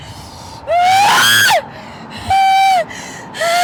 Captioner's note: squeals